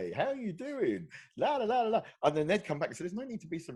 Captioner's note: speaking gibberish